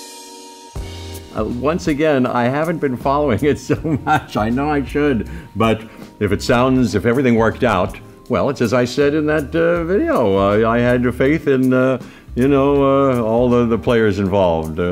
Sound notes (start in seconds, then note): 3.6 laughs